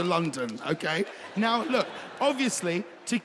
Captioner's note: audience laughs